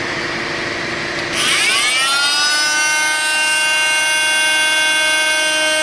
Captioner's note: vacuum sucking; Sonicrafter whirring